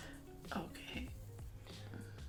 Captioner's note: whispers